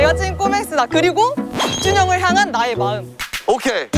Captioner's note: jingle-jangle